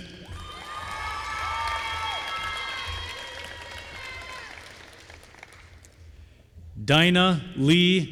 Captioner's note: applause